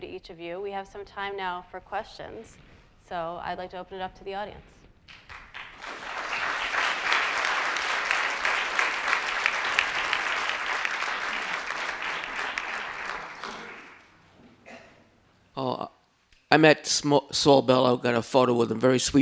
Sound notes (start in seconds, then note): 5.1 audience applauding